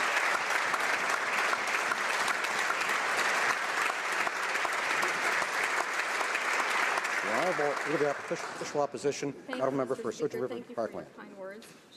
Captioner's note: applause